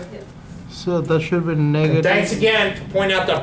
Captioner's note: voiceover